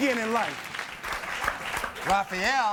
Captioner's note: audience applauds